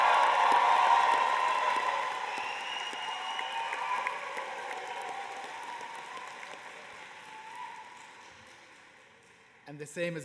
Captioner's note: cheers and applause